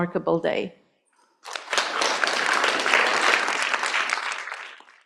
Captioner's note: applause